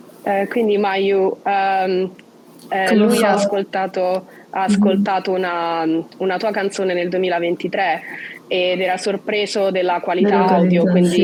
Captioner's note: speaks Italian